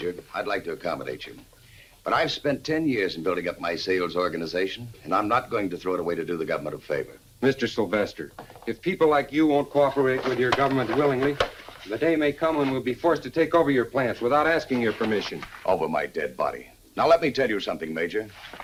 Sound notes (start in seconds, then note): none